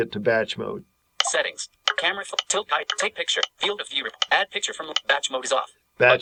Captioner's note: KNFB Reader scrolling through icons